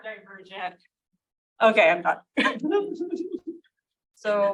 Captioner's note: chuckles